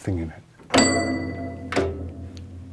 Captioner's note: ding; clunk, ding